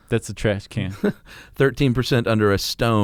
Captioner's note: chuckles